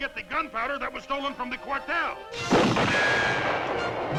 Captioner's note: gunshot